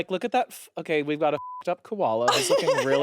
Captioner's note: beep